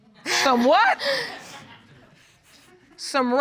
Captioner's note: laughs